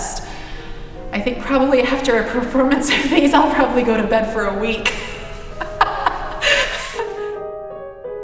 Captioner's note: laughs